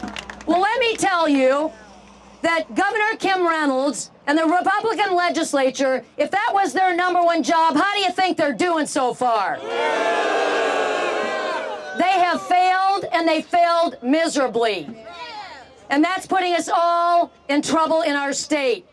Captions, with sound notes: Now, let me tell you That Governor Kim Reynolds and the Republican legislature, if that was their number one job. How do you think they're doing so far? [Crowd boos] They have failed and they failed miserably and that's putting us all in trouble in our state.